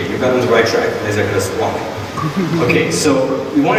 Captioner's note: audience laughing